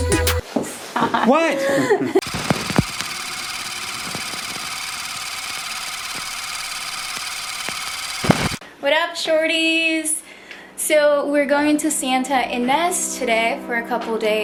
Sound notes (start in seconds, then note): 0.3 giggling; 2.2 projector clicking